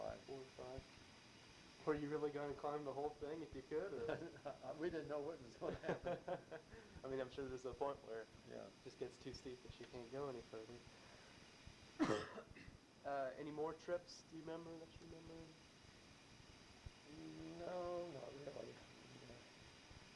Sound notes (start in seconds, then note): 5.6 both laugh; 12.0 coughs